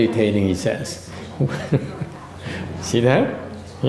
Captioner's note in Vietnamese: laughter